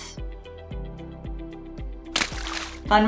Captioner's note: splash sound